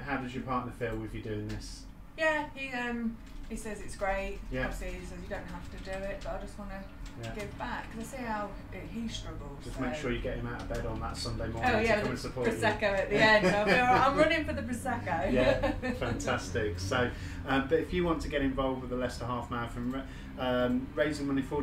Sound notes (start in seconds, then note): 13.2 laughter; 15.3 laughter